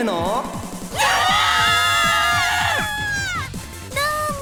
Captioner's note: panicked cries